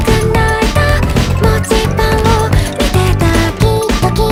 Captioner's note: annoyingly ticking clock face